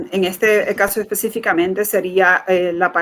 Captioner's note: speaking in Foreign Language